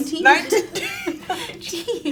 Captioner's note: girls laugh